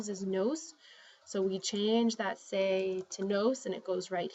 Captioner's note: spanish; spanish